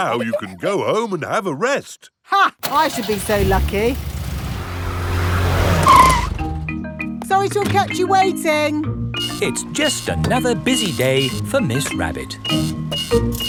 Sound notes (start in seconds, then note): 2.6 car engine starts; 5.8 brakes squeal